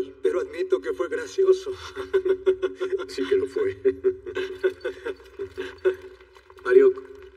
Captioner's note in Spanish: Ríe